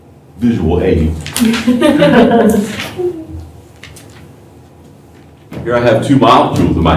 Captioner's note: laughter